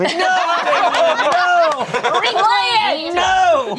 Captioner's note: all laughing